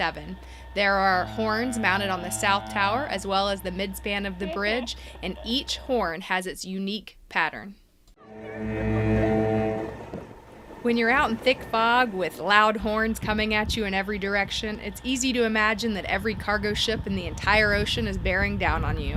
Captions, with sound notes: There are horns mounted on the South Tower as well as the mid span of the bridge and each horn has its unique pattern. [Lound Foghorn] When you're out in thick fog with loud horns coming at you in every direction It's easy to imagine that every cargo ship and the entire ocean is bearing down on you.